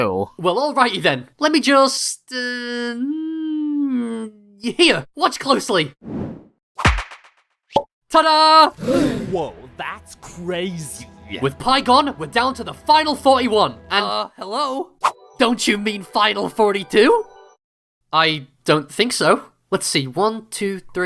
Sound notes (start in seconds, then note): 8.8 all gasp